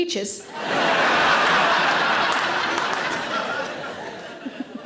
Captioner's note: audience laughing